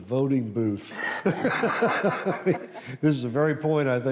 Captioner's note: laughs